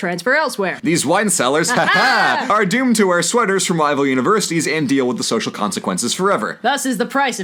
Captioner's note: ha ha!